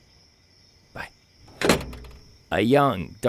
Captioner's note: phone hangs up